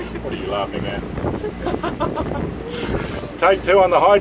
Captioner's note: laughs